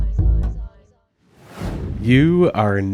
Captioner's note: dramatic whoosh